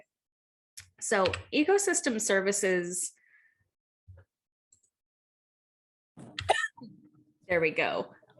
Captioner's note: cough